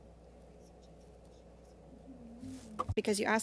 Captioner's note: speaking French